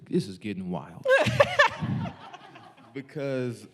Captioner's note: laughing